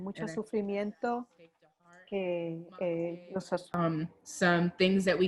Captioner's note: speaks in foreign language